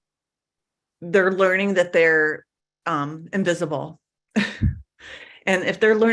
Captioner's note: laugh